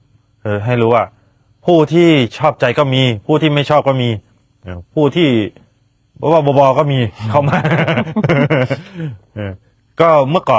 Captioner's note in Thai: เสียงหัวเราะ